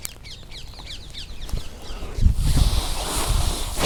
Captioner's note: breath